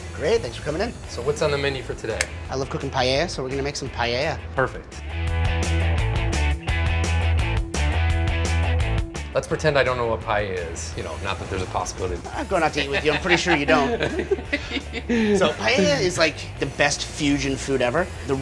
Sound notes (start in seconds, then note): 5.0 energetic rock music; 12.5 laughter